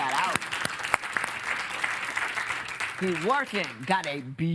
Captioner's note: applause